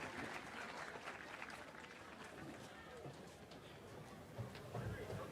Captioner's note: cheering and applause